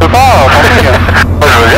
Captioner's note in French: Rire